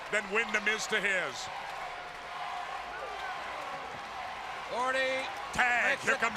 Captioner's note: crowd cheering